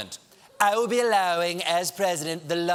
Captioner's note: audience reacts